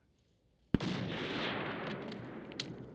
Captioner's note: gunshot